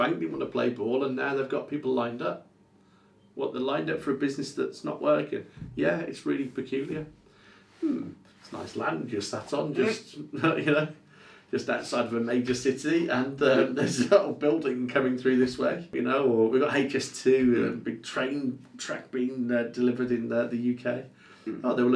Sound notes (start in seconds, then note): 13.4 laughs